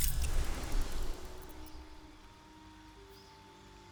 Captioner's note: silence